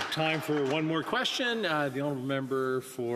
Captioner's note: some Applause